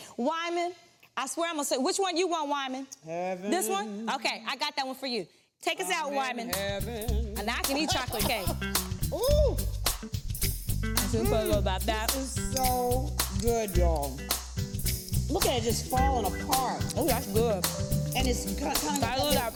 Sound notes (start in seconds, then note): 7.0 Vernee laughs; 7.0 lighthearted music